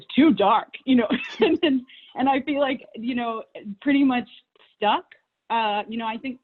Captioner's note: laughs